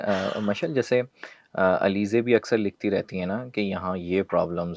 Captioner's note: sound of clearing throat